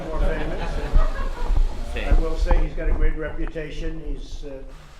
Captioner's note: laughter